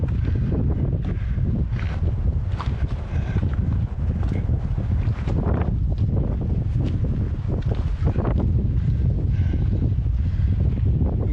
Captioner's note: wind